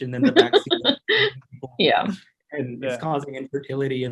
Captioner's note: laughs